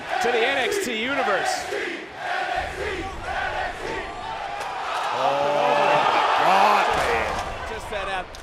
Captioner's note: crowd chants"nxt"